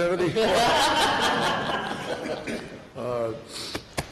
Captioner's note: laughter